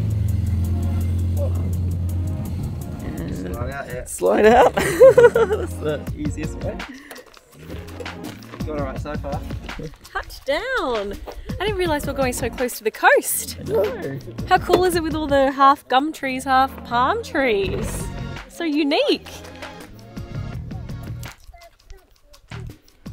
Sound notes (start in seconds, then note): 0.1 lighthearted music; 4.3 chuckles; 19.9 lighthearted music